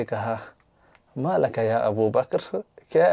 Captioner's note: Arabic